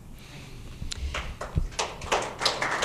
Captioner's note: applause